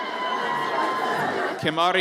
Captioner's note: audience cheers